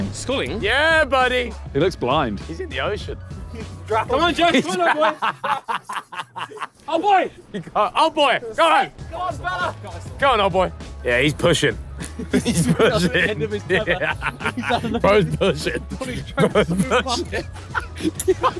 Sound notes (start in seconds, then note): 4.0 Sidemen laughs; 11.9 laughs